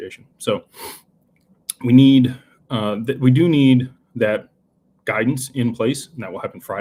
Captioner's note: snorts